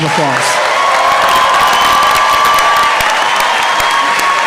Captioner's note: applause